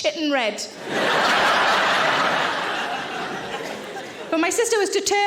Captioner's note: audience laughing